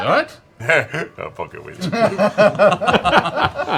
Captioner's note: laughs